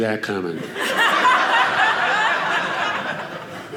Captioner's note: audience laughing